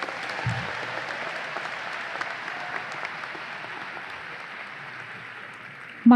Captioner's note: audience applause